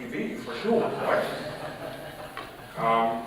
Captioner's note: laughter